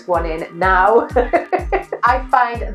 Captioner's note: laughing